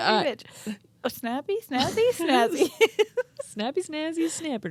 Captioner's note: laughing